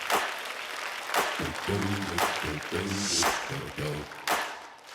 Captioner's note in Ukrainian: оплески